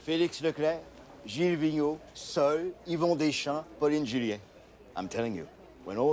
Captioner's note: speaking foreign language